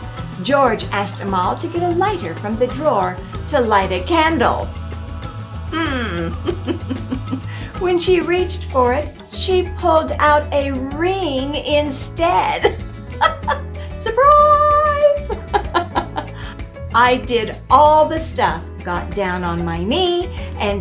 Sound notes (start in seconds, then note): 5.6 hmmm. Giggle; 15.1 giggle.... Surprise! ...Giggle